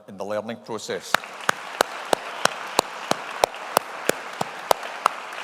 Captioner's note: audience applauding